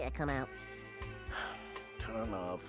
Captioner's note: sighing